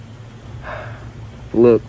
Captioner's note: sigh